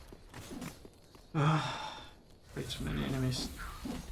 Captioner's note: sigh